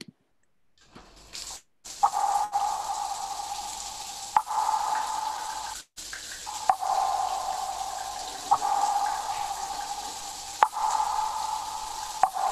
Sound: water dripping, a shower running

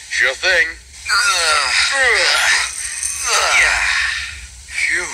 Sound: grunts

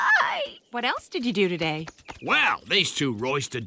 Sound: squeaks

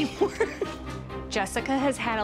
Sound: nervous chuckle

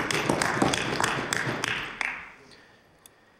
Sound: applause

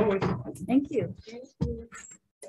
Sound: gavel banging

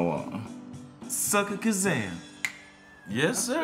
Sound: snaps fingers

